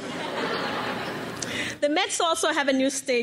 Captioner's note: crowd laughs